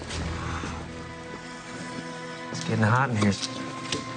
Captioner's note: Billy sighing